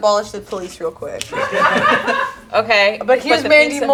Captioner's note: group laughs